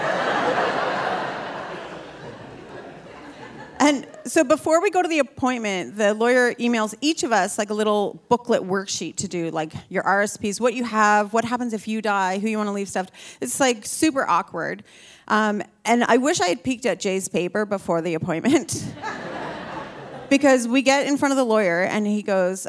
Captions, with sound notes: (audience laughing) And so before we go to the appointment, the lawyer emails each of us, like, a little booklet worksheet to do, like, your RSPs, what you have, what happens if you die, who you wanna leave stuff. It's, like, super awkward. And I wish I had peeked at Jay's paper before the (laughs) appointment (audience laughing) because we get in front of the lawyer, and he goes,